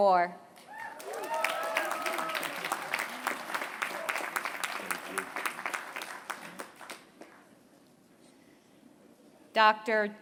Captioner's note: applause